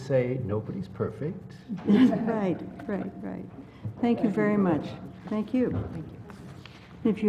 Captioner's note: laugh